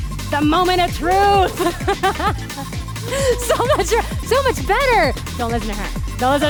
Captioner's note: laughs